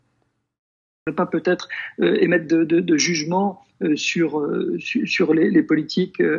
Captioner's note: man speaking a foreign language